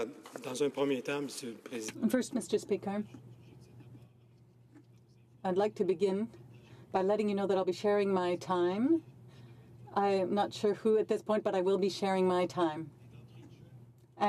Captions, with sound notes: NO INTERPRETATION. [ Speaking French ] FIRST, MR. SPEAKER, I'D LIKE TO BEGIN BY LETTING YOU KNOW I'LL BE SHARING MY TIME.